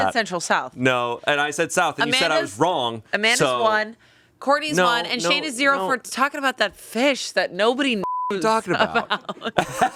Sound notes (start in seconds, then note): 8.0 beep